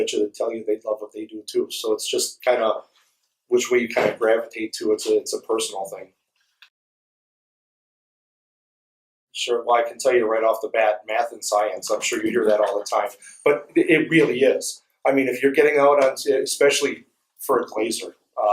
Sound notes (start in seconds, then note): 6.7 silence